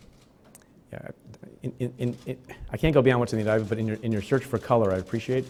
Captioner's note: stutters